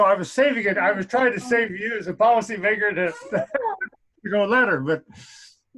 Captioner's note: laughs